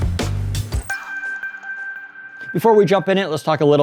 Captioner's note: ding